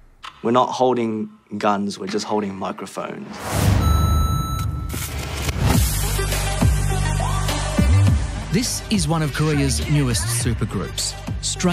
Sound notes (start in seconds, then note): 3.7 beeping; 5.4 funky music plays